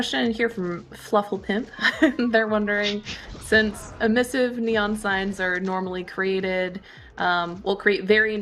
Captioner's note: laughs